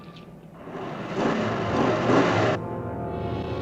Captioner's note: accelerating engine